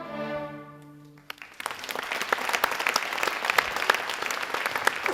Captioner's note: audience applauding